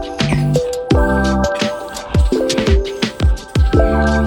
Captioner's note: aerosol sounds